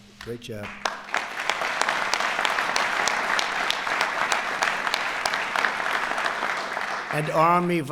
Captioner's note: applause